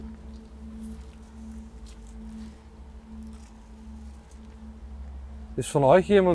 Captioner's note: wind in the background